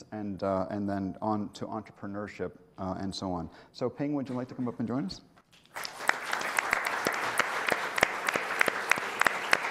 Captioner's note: applause